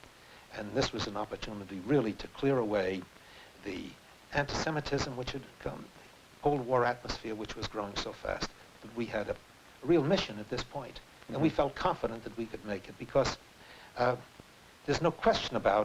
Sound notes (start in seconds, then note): none